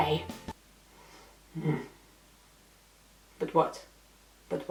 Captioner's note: French accent